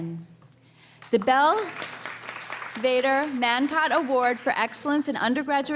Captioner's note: applause